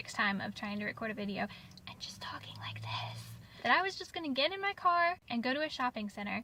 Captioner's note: whispered